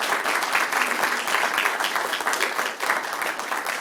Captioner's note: applause